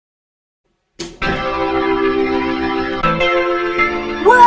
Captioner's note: door shuts, music plays